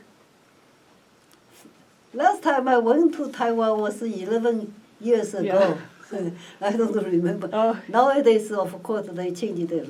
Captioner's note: laughs